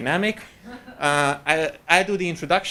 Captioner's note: audience laughing